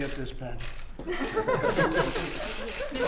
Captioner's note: laughter